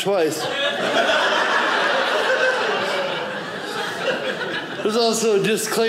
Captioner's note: audience laughing